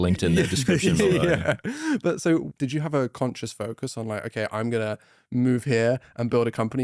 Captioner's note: laughs